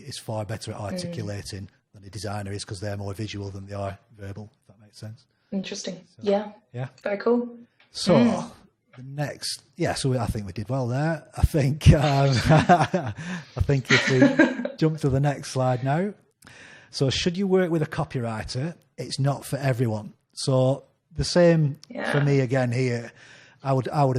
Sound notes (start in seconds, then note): 11.8 both laughing; 13.8 laughs